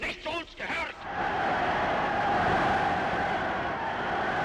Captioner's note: cheering